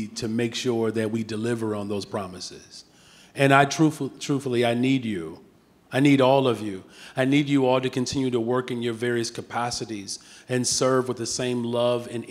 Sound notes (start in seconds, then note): none